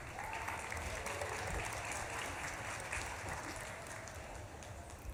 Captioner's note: audience claps and cheers